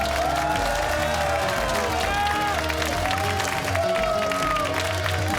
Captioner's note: cheers and applause